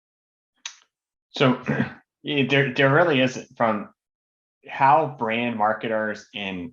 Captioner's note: cough